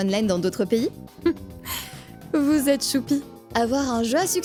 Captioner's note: laugh